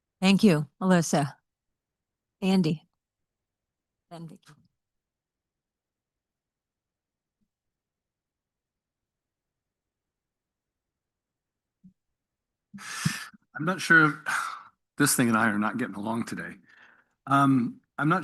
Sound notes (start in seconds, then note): 12.8 sighs